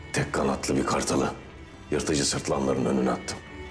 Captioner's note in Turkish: none